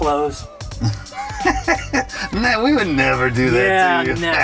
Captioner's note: chuckling